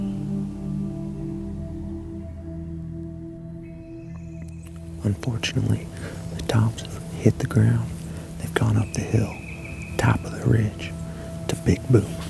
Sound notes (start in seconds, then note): 5.0 whispering